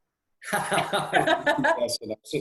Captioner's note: laughs